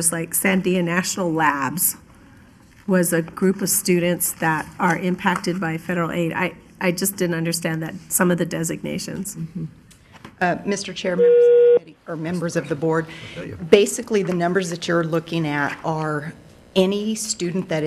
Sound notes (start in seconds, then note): 11.1 electronic beeping